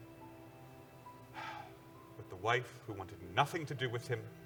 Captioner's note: sighs